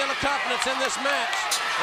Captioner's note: crowd cheering